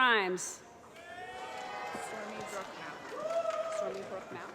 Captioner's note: applause